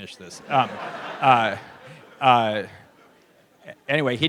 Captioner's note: laughter